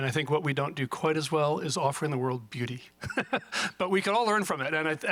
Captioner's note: laughs